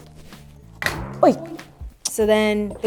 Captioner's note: boing sound effect